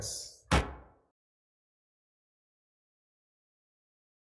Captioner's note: gavel bangs